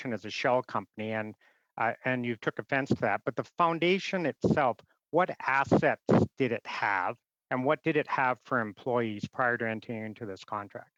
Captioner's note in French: voix de l'interprète